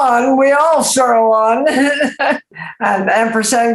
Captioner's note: laughs